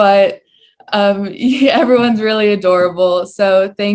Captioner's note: laugh